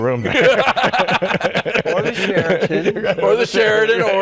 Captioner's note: laughter